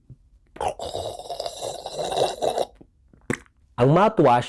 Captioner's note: gargling